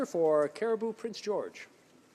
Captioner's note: speaking french